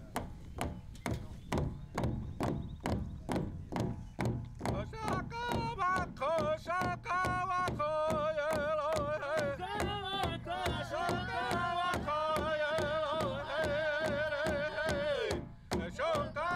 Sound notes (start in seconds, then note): 0.2 all beating drum; 4.8 instructor chants in Lakota; 9.8 all chant in Lakota